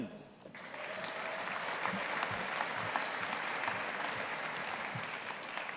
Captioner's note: audience applauding